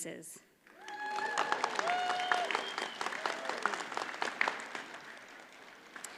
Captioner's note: audience cheers and applauds